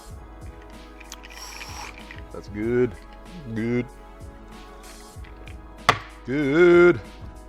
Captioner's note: gasps